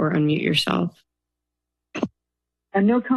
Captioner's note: silence